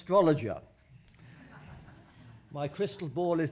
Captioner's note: laughter